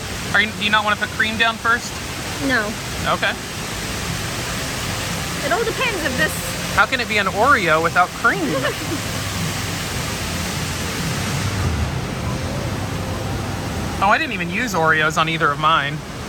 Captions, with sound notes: Do you not want to put creme down first? No. Okay. How can it be an OREO without creme? (Laughs) Oh, I didn't even use OREOs on either of mine.